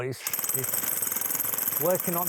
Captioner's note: drill whirring